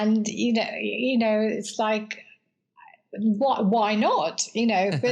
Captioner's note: laugh